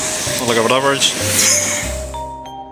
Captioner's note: wheeze